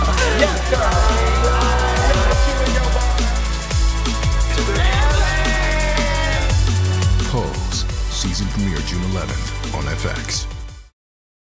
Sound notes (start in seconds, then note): 4.1 cheering